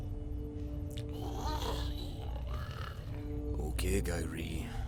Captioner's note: Giree grumbles